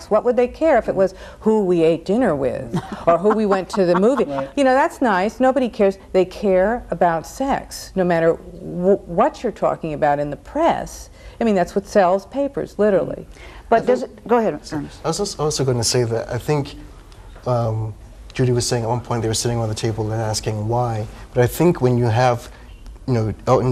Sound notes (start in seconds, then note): 2.7 laughs